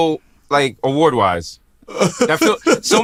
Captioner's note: laughs